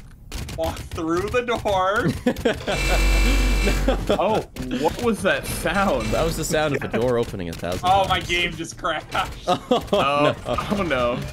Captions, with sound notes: - walk through the door [Giggle] [more noises from Hell] - oh, what was that sound? That was the sound of the door opening a thousand times - oh my game just crashed ohh nooo